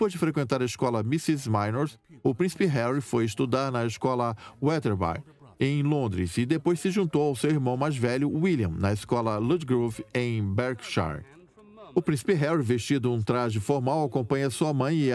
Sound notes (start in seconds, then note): 8.5 engergetic music; 10.6 voiceover